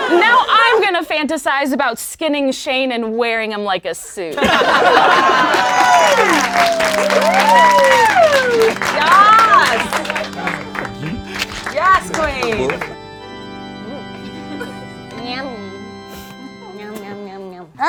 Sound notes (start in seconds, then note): 4.4 laughing; 10.2 melancholic organ music